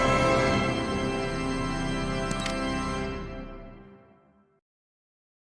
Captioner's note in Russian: Видозвонок